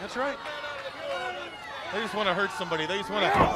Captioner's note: crowd chatter